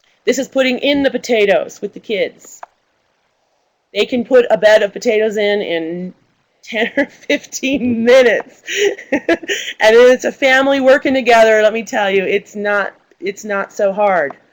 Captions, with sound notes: This is putting in the potatoes with the kids. They can put a bed of potatoes in, in 10 or 15 minutes [laughs]. And it is a family working together. Let me tell you, it's not so hard.